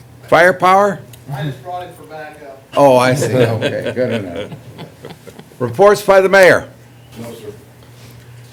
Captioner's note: laughter